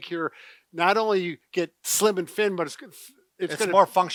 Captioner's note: stammering